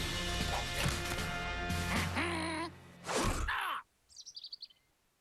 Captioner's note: quacks